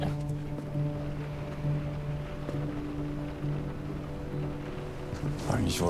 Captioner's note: raindrops against the window